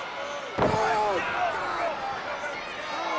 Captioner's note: Flyin' Brian thuds